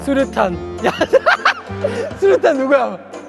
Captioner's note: laughing